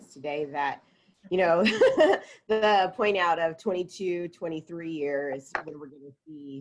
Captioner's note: laughs